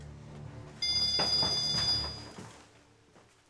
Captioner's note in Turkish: Telefon çalıyor